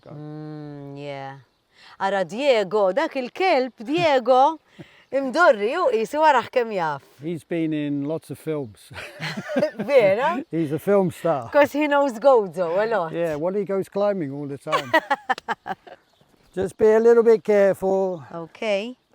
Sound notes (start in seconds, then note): 9.0 both chuckle; 14.7 chuckles